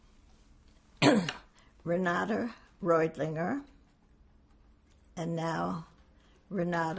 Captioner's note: clears throat